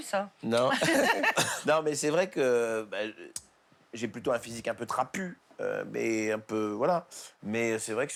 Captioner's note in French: rires